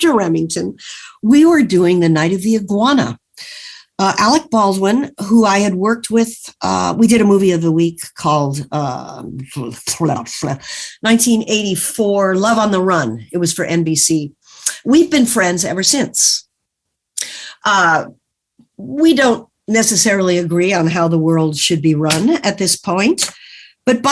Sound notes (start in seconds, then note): none